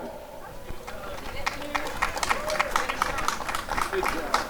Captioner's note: applause